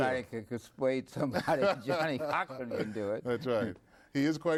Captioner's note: both laughing